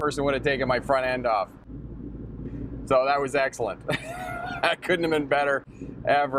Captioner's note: chuckling